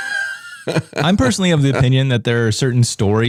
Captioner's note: laughing